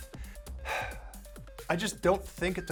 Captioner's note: sighs